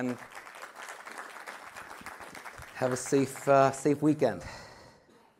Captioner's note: applause